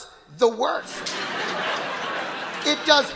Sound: audience laughing

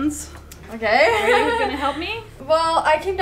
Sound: laughing

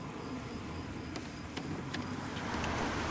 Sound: none

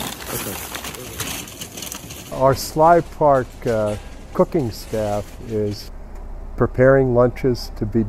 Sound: sounds of bags rustling

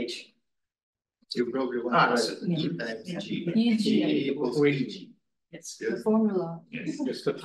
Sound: audio distorting

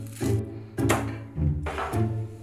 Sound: knife smashing

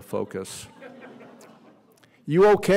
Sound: laughter

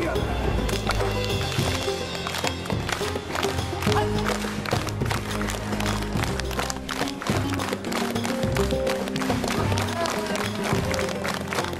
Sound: clapping

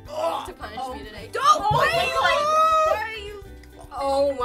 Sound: squealing

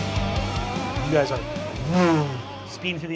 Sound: rock music; whooshes

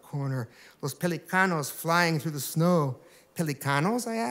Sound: speaking spanish

